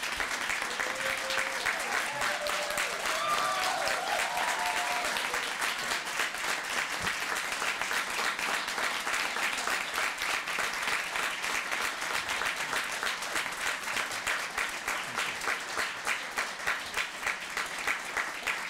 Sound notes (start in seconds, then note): 2.0 cheering; 5.5 applause